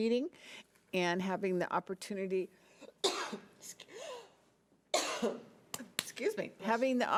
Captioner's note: coughing